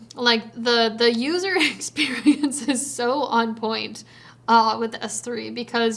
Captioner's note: chuckles